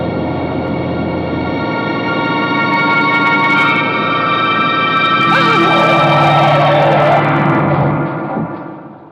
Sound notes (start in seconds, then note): 5.0 tires screeching; 5.2 gasps